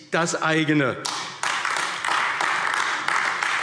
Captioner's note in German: Beifall AfD